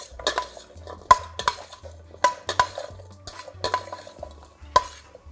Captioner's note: spoon clanking in bowl